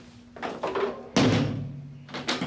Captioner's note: door bangs shut